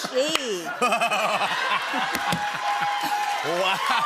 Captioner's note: laughter